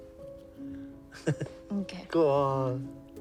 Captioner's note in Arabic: أوسكار يضحك